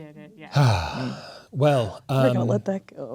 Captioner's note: sighs